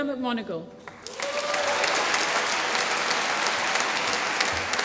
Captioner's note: applause